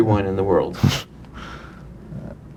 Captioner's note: chuckle